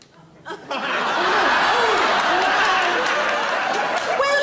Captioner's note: audience laughs